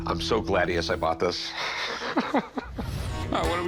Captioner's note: chuckles